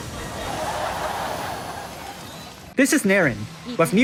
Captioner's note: laugh Track